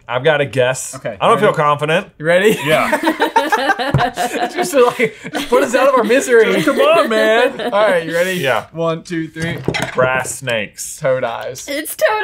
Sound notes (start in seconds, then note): 2.5 laughs; 2.6 laughing